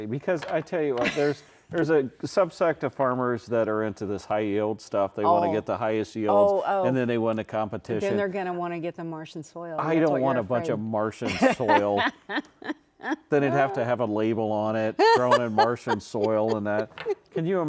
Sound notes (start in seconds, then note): 11.2 laughing